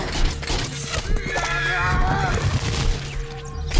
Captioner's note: men grunting and yelling